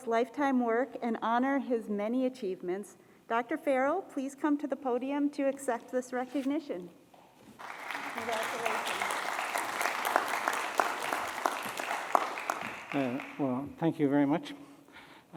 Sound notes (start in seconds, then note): 7.6 applause